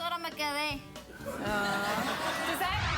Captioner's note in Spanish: el público reacciona con risas